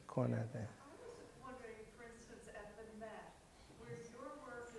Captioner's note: voiceover